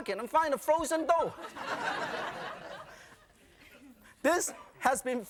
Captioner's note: audience laughing